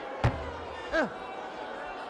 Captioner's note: thudding